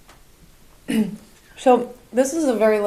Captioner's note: Angelica clears throat